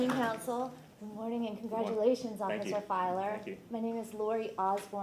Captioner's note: applause